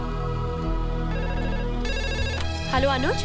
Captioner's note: Phone rings